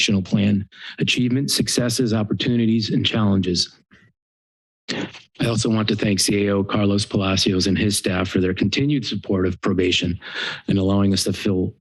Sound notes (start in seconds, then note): 4.9 pause